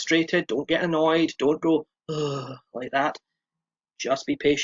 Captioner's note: beleaguered sigh